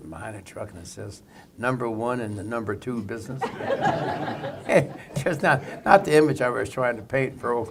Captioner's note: laughter